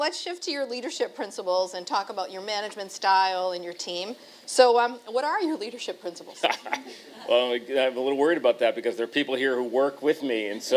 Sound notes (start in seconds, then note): 6.4 chuckle